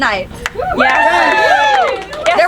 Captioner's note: audience cheering